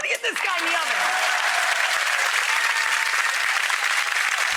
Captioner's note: audience applause